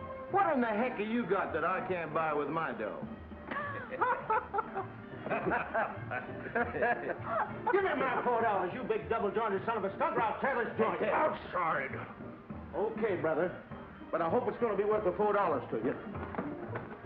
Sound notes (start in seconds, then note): 3.4 laughing